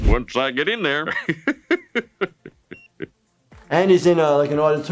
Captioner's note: Dr. Hibbert laughs